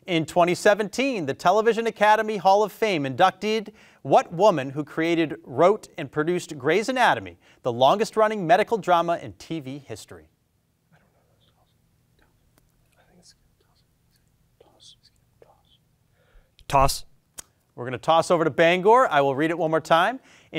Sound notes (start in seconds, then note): 11.6 students whispering